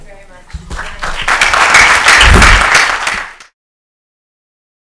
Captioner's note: applause